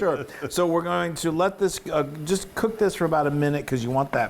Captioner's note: laugh